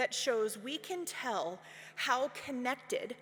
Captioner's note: none